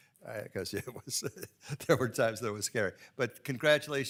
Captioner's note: laughs